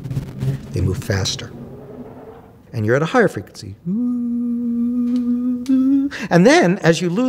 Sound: high Frequency Noise

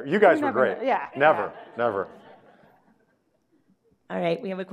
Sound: audience laughing

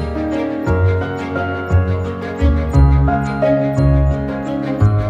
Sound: none

